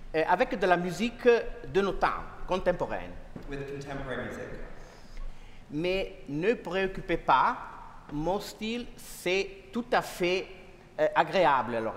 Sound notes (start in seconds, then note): 1.0 speaking french; 6.0 speaking french